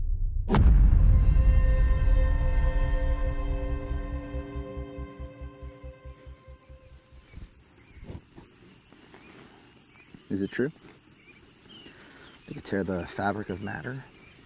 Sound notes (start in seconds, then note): 0.0 boom